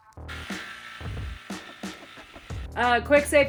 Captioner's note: saw buzzing